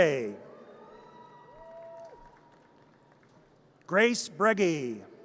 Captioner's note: audience cheers